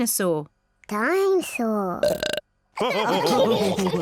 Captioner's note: burps; all laughing